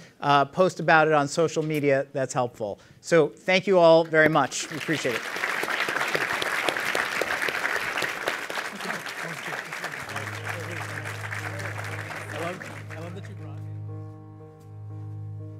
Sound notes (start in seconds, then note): 4.4 applause